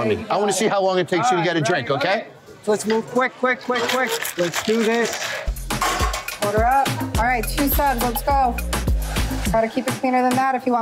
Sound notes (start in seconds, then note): 3.6 ice clatters